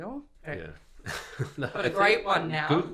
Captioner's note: laughing